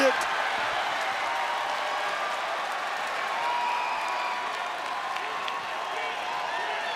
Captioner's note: applause